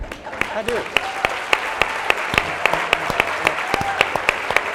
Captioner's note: laughing and applauding